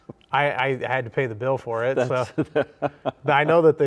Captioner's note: laughs